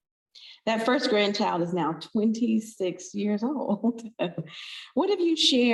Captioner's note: chuckles